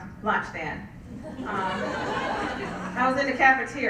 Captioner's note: laugh